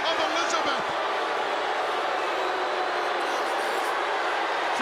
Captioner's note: crowd booing